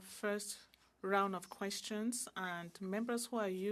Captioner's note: speaking French